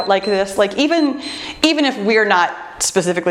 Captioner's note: timer beeps